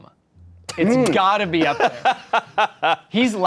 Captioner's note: laughing